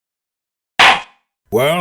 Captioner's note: gavel slams!